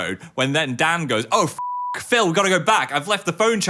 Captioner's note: beep